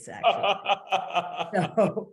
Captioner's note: laughing